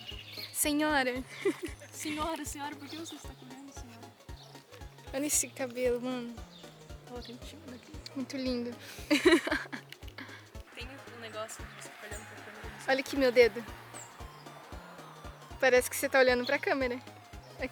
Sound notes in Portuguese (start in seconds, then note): 1.2 risos; 8.8 risos